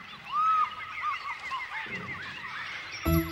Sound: jungle sounds

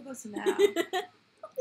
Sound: laughter

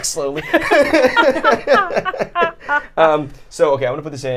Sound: all laughing

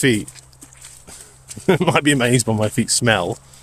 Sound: laughs

